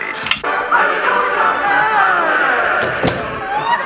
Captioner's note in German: Klick; Klicken; Tür schließt